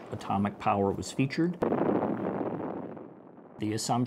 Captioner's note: bombs exploding